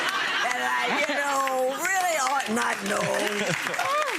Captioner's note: laughing